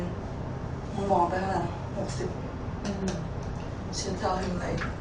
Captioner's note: speaks in foreign language